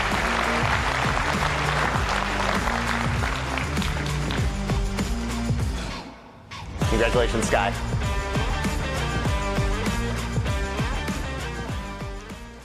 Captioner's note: applause and cheering